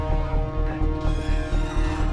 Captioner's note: metal creaks